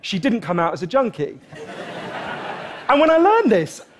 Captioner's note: Laughter